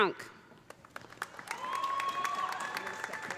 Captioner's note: audience applauding; audience cheering